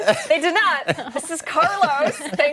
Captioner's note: laughter